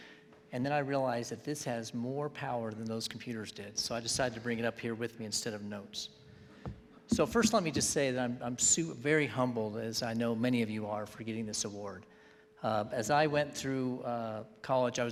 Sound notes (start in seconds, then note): none